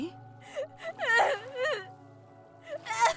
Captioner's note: cries